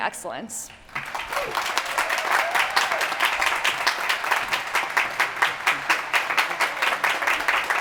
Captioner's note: applause